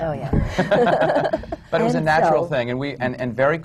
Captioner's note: they laugh